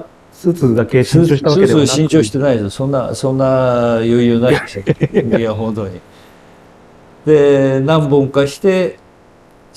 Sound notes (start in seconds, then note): 4.4 laughs